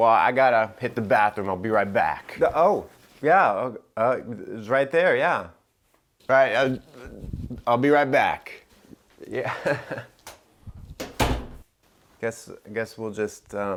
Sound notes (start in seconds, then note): 9.2 chuckling; 11.0 door shutting